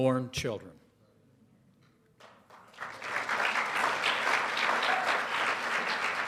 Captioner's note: applause